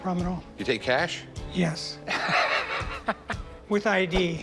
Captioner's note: laughs